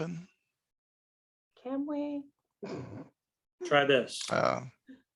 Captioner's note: laughter